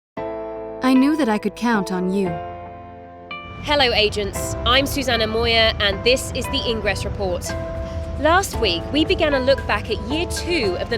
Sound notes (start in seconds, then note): 0.9 voiceover